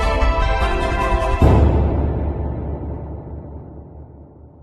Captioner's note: boom